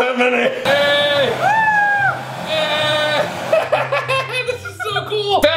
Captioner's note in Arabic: يهتف